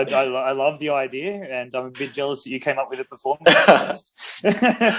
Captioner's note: BOTH laugh